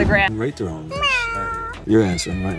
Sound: cat meowing

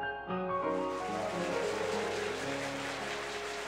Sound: applause

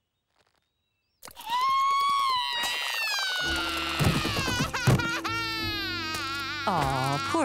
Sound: crying

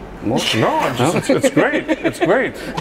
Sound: laughs

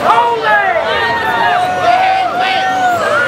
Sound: cheers

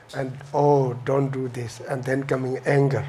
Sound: none

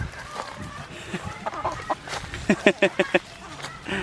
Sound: chickens clucking; laughing

